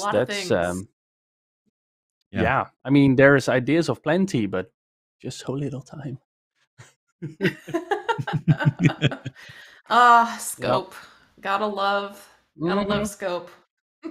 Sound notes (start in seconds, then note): 7.2 laughter; 12.8 laughs